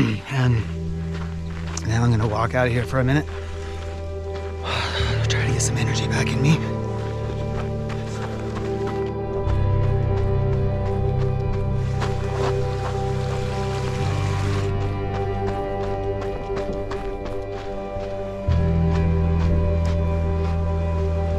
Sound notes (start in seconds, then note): 12.2 water bubbling; 15.0 footsteps crunching